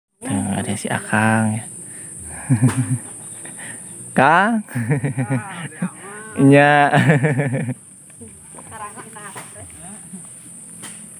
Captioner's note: laughs